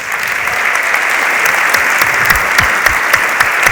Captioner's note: audience applauds